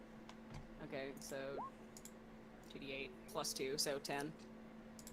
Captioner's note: mumbling about numbers